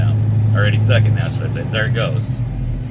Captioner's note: air governor kicks out